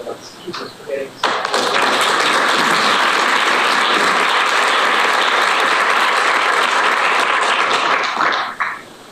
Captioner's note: applause